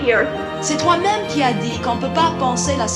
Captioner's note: speaking in foreign language